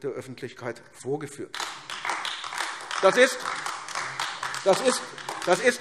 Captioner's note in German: Beifall AfD